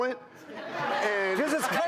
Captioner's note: laughing